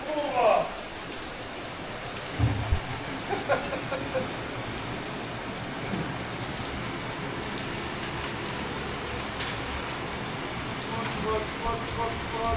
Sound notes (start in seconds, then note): 3.2 laughing